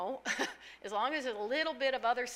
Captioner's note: laughing